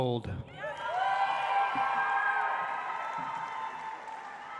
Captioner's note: audience applauds